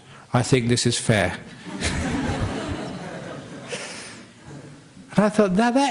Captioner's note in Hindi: हँसी